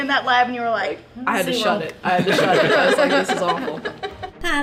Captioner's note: laughter